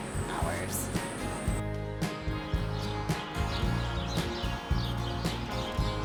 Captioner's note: birds chirping; upbeat music